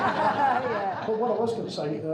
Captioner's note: crowd laughing